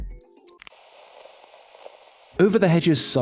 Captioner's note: click